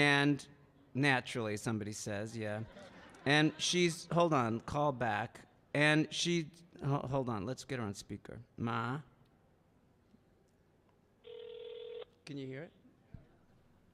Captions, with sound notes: and, "Naturally," somebody says, yeah. (audience laughing) And she's, hold on, call back. And she, oh, hold on, let's get her on speaker. Ma? (phone ringing) Can you hear it?